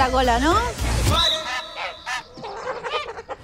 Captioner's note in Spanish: graznidos